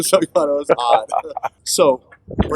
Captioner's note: laughter